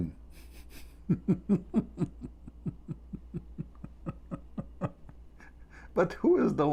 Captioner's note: Ketawa